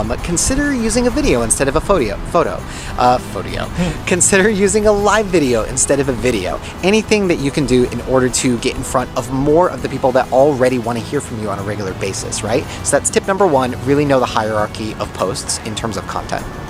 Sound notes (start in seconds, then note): 3.6 man laughing